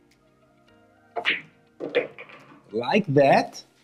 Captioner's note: ball smacks